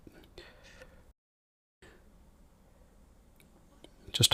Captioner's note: silence